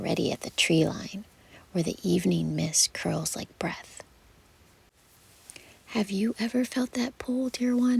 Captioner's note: whispered